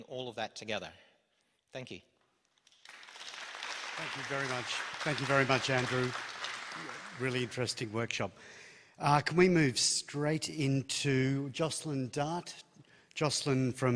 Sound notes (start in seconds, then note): 2.6 applause